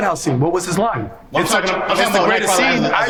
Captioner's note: overlapping chatter